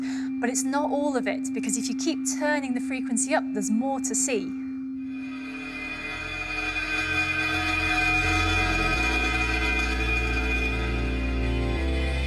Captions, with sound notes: But it's not all of it, because if you keep turning the frequency up, there's more to see. (SAND RATTLES ON THE PLATE)